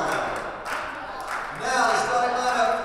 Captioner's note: team clapping